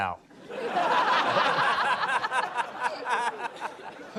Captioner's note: laughter